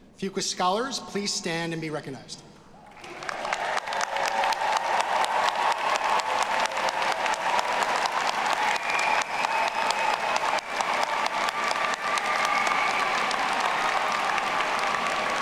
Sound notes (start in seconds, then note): 3.3 audience applauding; 4.4 audience cheering